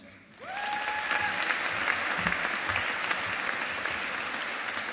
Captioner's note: audience applauding